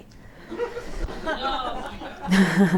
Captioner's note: laughter